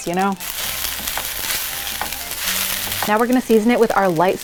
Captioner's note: dish sizzling